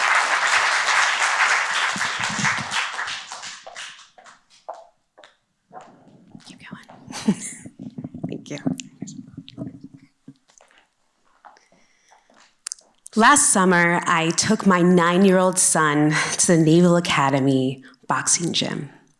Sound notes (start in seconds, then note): 0.0 applause; 7.0 whispering; 7.0 chuckles